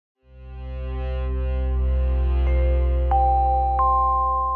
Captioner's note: electronic bells chiming